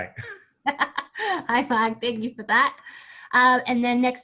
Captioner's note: laughs